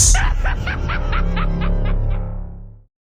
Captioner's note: scream laughing